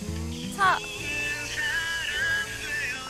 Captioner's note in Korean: 휴대전화 발신 연결음